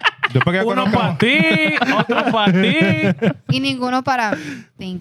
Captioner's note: laughter; speaking Spanish